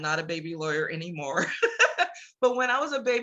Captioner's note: laughs